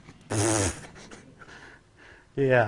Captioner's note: blows raspberry